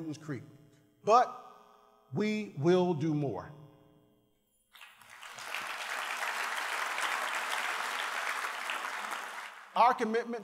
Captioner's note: applause